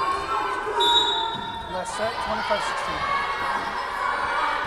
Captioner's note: whistle blowing